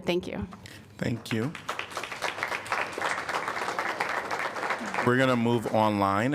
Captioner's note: applause